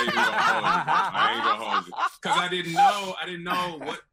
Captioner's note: laughing